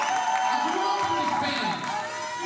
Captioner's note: cheers and applause